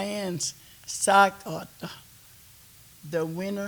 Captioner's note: speaking Kiowa